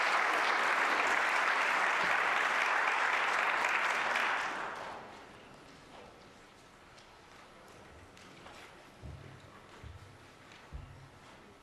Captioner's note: applause